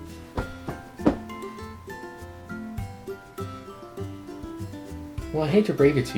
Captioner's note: thump, thump, thump